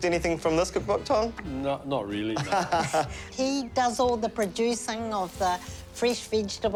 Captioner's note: laughs